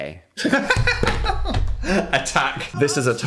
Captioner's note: Phil laughs